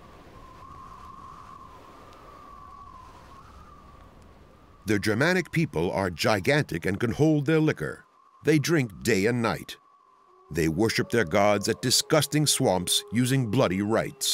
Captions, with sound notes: [wind whistling] The Germanic people are gigantic and can hold their liquor. They drink day and night. They worship their gods at disgusting swamps using bloody rites.